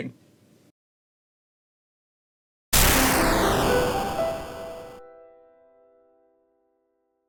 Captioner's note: video game explosion sound